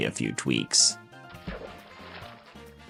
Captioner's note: splash